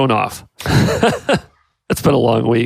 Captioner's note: laughing